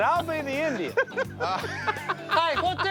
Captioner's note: laughs